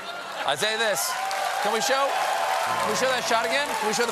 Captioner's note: cheers and applause; laughter